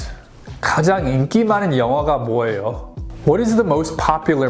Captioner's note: speaks Korean